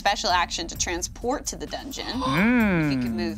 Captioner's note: others gasping and humming